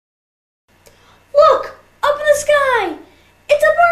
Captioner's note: child's voice